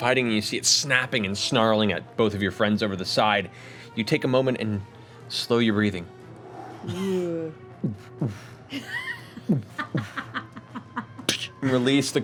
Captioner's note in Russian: стук сердца